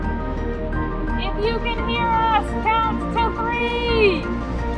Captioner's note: yelling